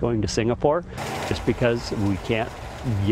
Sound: machine roaring

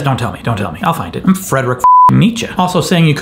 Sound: beep

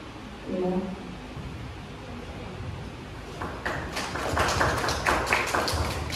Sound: claps

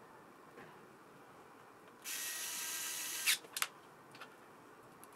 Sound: buzzing

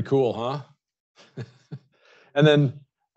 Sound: chuckles

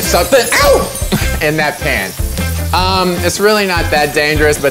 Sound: laughs

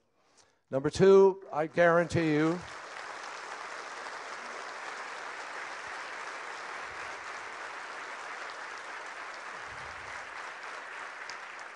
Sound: applause

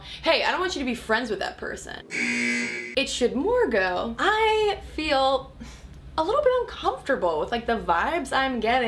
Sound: buzzer

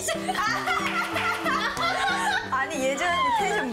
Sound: laughter

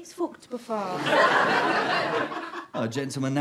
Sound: audience laughter

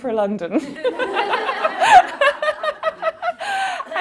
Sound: laughing

